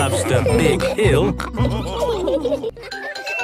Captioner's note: all laughing; children giggling